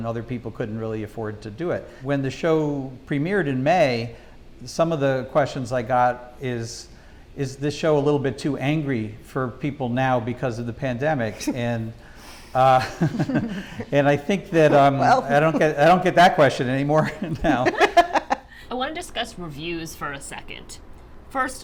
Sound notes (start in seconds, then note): 12.2 Amy laughs; 12.2 laughs; 17.3 panelists laughing